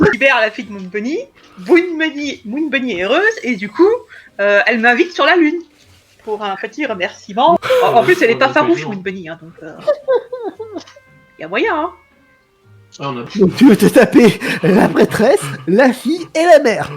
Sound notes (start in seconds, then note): 9.8 laugh